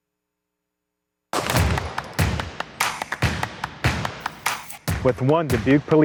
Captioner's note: gun reports